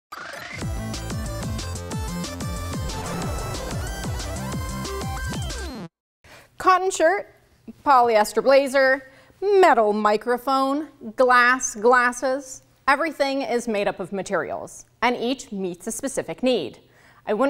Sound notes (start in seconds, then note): 0.7 upbeat electronic music; 2.4 rocket whooshing